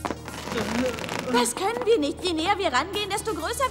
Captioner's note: groan